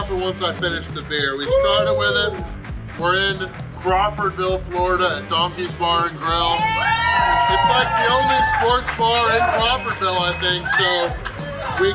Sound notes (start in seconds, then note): 6.5 audience cheering